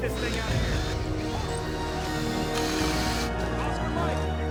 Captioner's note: drill whirring